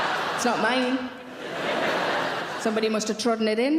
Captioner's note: audience laughing